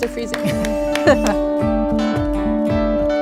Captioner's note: laughs; soft music